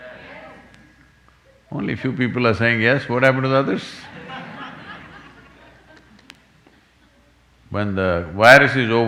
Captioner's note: laughter